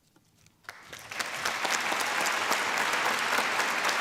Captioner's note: applause